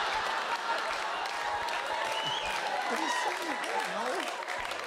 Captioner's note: audience laughs